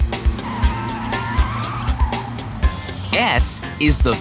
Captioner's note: screeching